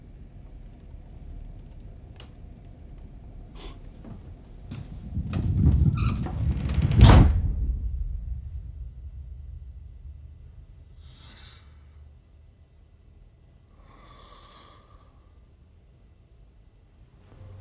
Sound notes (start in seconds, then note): 10.4 heavy breathing